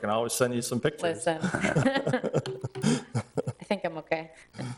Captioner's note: both laughing